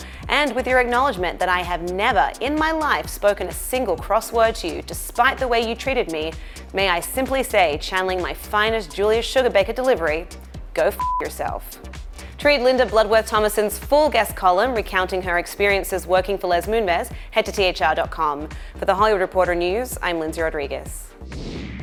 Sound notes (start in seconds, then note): 10.9 beep